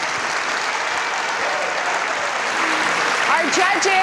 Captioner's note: audience applause